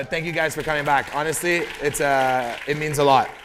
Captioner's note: applause